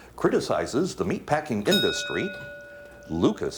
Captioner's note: ding